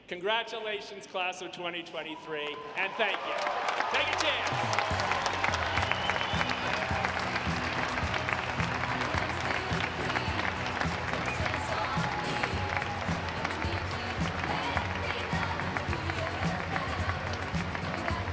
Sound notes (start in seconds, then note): 4.8 audience applauding